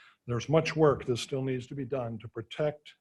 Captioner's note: none